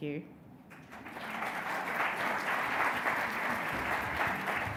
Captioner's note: audience clapping